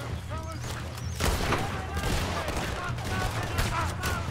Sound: guns firing

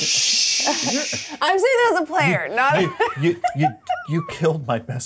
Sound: laughs

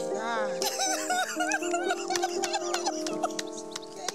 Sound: sobbing

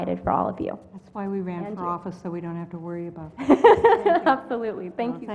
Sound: laugh

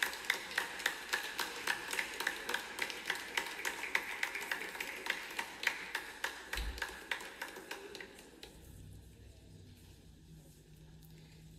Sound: cheers and clapping from audience

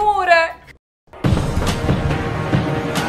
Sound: knocking

